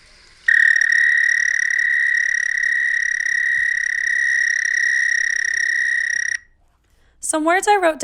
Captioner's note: eastern American Toad vocalization